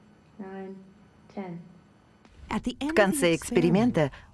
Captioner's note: lower-pitched voice